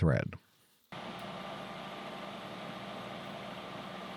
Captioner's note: machine whirring